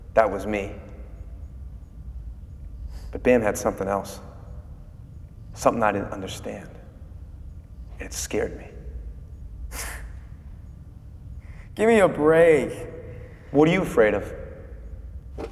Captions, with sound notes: that was me, but Bam had something else. Something I didn't understand, and it scared me. (Adam scoffing) Give me a break. What are you afraid of?